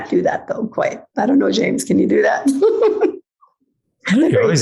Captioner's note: laughs